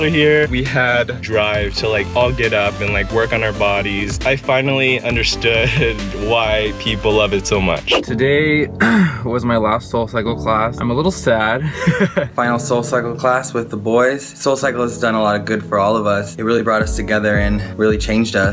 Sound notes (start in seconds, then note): 11.7 laughs